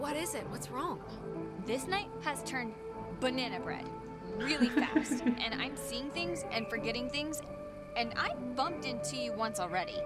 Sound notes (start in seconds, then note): 4.4 laughs